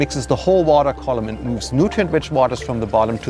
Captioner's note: water bubbling